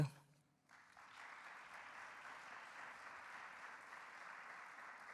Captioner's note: audience applauding